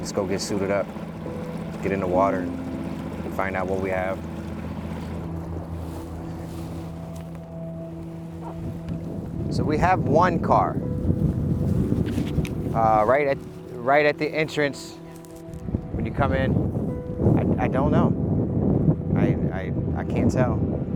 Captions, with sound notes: Let's go get suited up, let's get in the water and find out what we have. (gentle music continues) (grass rustling) So we have one car right at the entrance. - Is it it? - When you come in. I don't know, I can't tell.